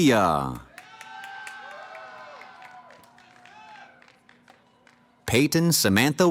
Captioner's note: cheering